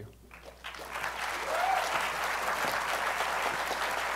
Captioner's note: applause